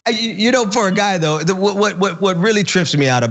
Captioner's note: laugh